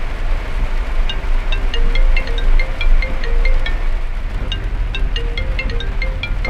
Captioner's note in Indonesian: Dering telepon